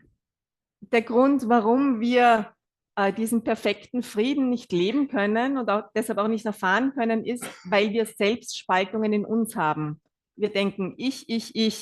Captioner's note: German live translation